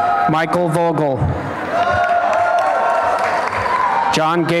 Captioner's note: applause and cheering